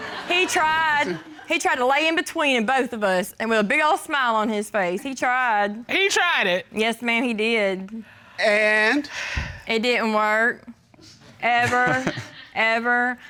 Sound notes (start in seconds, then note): 8.6 judge sighs; 11.6 chuckling